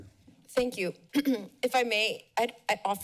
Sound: clears throat

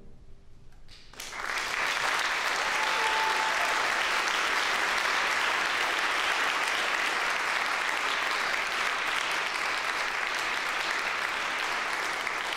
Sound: applause

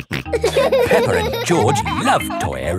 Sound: laughing; snorts

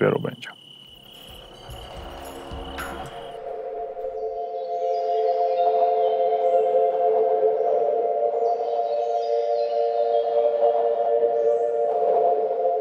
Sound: birds singing

